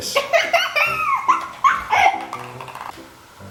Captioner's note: giggling